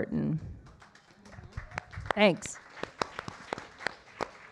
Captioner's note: audience applauding